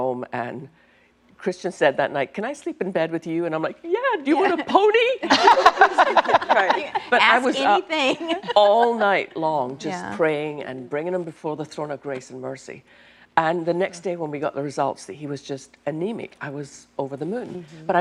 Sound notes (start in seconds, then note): 5.2 laughter